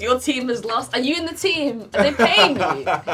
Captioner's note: laughing